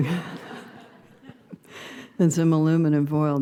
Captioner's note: laughing; laughter